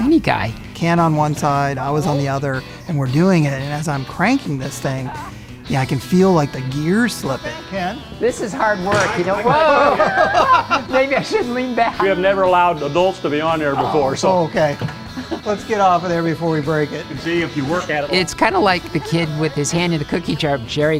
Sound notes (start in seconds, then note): 8.9 bang!; 9.2 both laughing